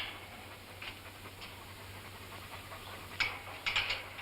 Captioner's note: none